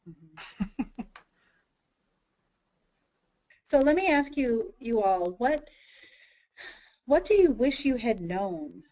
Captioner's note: chuckles